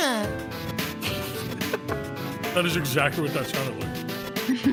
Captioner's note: laughs; laughs